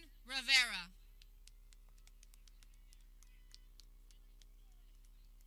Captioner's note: people clapping